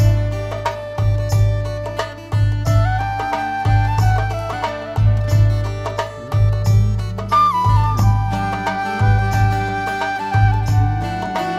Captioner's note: laughs